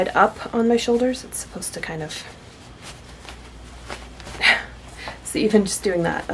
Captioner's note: laughs